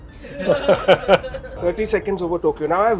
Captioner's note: laughter